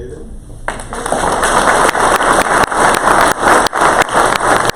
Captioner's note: crowd applause